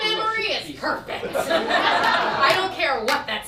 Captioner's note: audience laughs